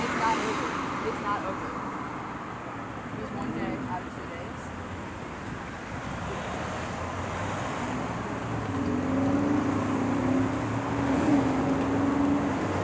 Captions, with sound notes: It's not over, it's not over. It was one day out of two days. (cars passing)